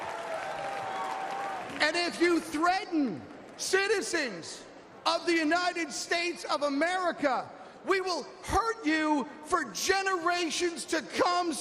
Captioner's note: applause